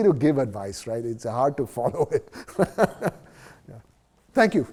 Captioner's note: laughs